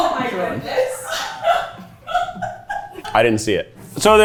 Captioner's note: crew laughs